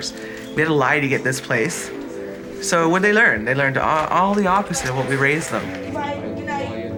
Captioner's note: none